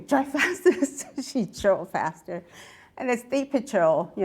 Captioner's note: laughs